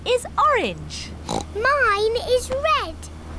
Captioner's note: oinks